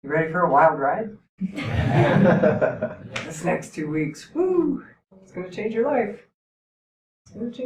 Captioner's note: laughter